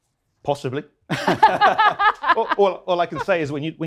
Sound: laughter

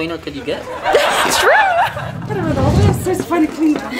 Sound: crowd laughs

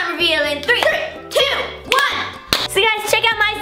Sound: claps

